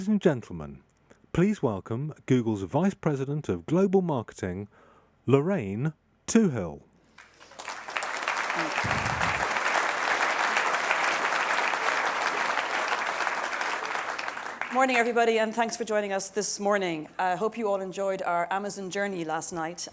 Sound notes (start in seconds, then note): 7.1 applause